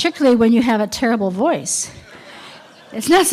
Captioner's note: laughter